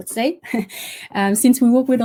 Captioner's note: giggles